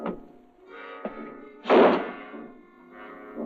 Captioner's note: banging